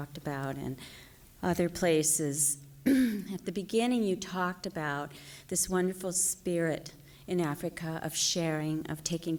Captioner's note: clears throat